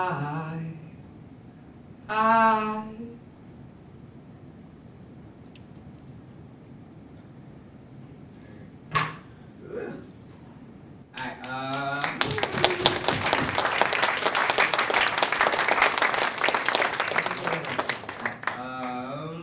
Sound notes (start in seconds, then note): 11.1 applause